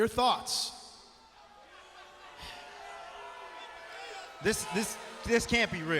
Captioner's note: crowd chatter